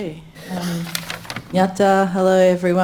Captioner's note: speaks in foreign language